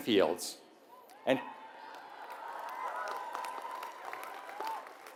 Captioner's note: applause